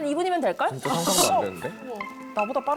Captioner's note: jaw-dropping sound effect